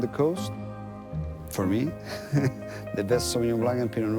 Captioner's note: laughing